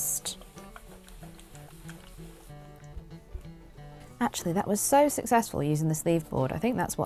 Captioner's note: iron sizzles